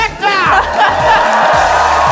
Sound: cheering

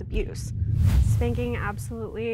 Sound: air quivers

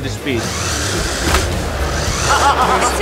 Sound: car motors running; laughing

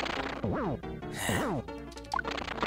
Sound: sigh

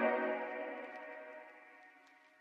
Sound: low crackle

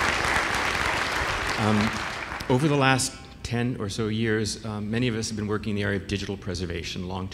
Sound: applause

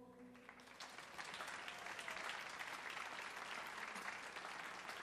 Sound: audience applauds

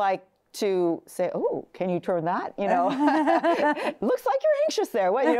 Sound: both laughing

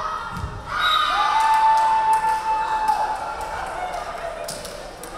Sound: referee whistling

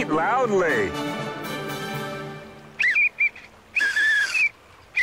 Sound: pathetic Whistle Blow

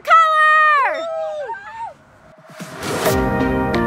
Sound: cheering; upbeat music

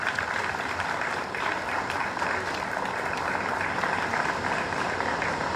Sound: applause

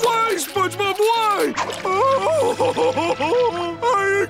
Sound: crying

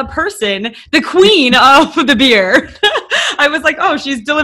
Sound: laughing

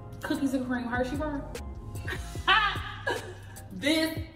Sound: laughing

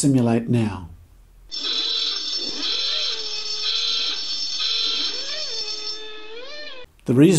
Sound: noisy klaxon

